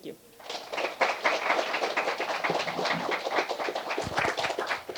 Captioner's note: applause